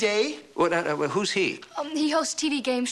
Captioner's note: stuttering